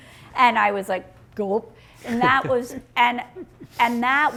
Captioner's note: laughing